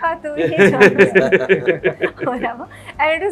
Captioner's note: sings; laughs